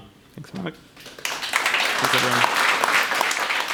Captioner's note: audience applause